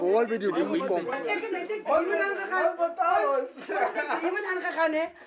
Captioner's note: speaking in afrikaans